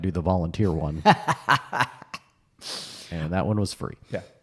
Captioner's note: laughs